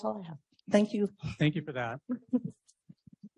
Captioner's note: laughs